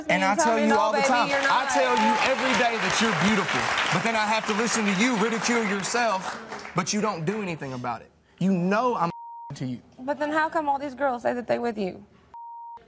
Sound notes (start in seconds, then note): 9.1 beep